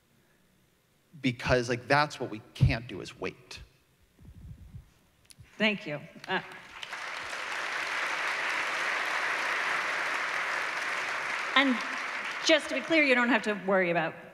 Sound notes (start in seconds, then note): 6.2 applause